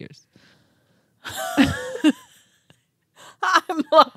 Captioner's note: laughing